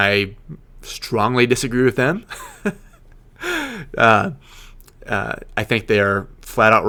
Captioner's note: laughing